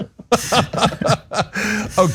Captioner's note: laugh